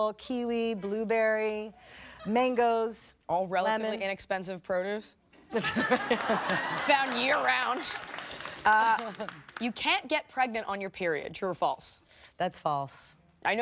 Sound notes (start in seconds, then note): 5.4 laughter